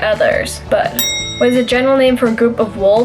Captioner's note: bell ring